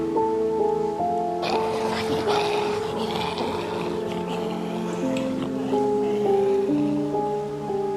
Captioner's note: zombie Groaning In the Distance